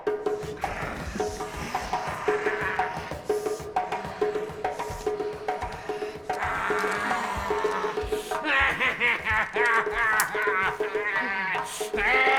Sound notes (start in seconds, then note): 1.7 snarling